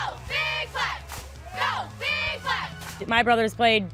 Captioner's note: cheerleaders chanting